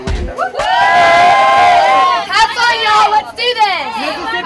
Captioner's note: cheering